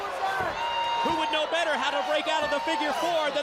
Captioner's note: crowd cheering